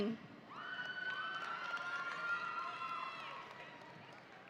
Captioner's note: audience cheering